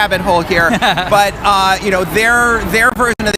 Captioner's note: interviewer laughs